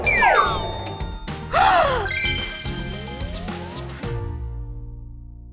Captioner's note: gasps